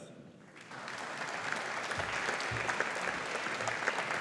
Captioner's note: audience applauding